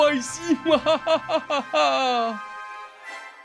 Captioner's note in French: rire maléfique